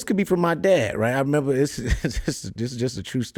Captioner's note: chuckles